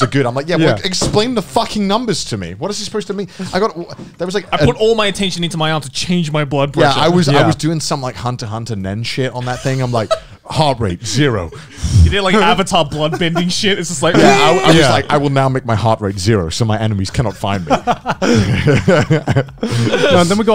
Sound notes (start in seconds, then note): 0.0 laughing; 9.4 laughing; 17.2 laughing